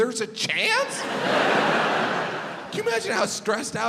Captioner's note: crowd laughs